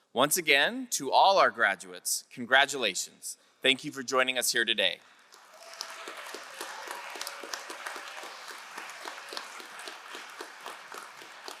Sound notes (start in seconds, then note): 5.2 crowd cheering and applauding